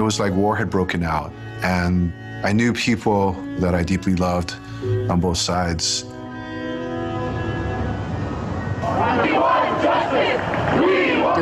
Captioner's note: chanting